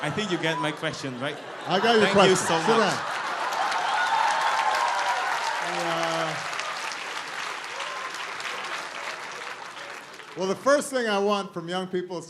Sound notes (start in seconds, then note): 4.1 laughter and applause